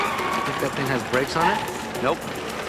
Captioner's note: tires squealing, horns honking